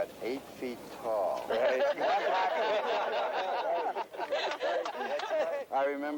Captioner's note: laughter